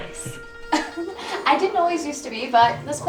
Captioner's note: chuckles